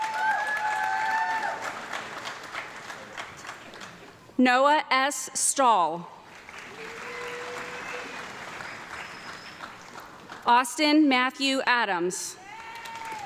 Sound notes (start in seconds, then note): 0.0 audience clapping and cheering; 6.2 audience clapping; 12.4 audience clapping and woman cheering